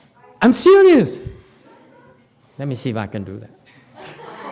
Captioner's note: audience laughs, laughs